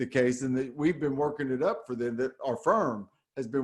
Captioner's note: none